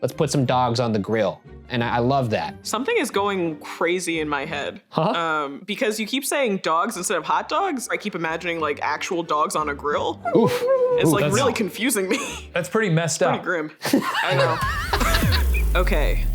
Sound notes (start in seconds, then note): 10.2 dog whining; 13.8 laughing